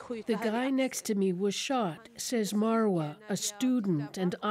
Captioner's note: speaking alternate language